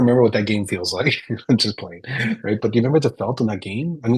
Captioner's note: chuckles